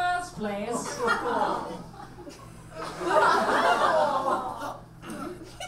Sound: audience laughs

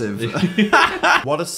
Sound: laughing

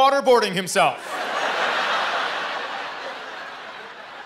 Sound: laughter

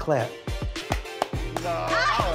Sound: claps

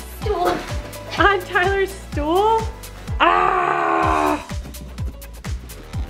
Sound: screams sarcastically

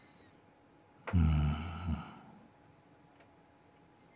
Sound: silence

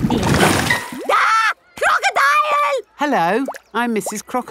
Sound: screams

